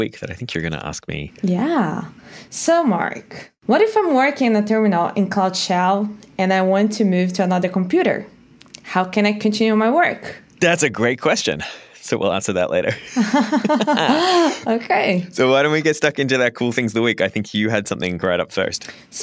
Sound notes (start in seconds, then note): 12.8 laughter